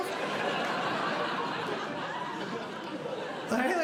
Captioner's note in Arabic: ضحك